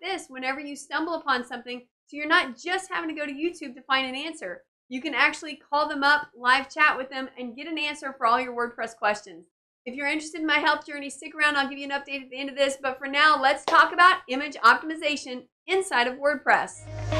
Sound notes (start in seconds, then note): 13.6 claps hands; 16.8 bright music